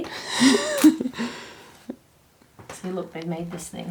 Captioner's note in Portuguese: rindo